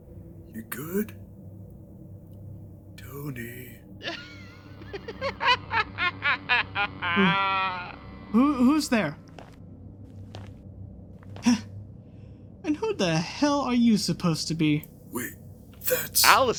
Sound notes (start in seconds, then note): 0.5 sfx: Static hiss, deep, echoing laughter; 12.6 sfx: slow footsteps